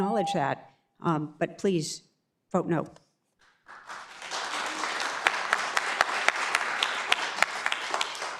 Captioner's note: beep; beep